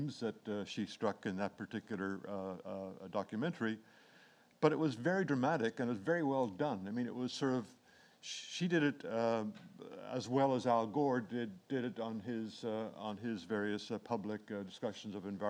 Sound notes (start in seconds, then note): none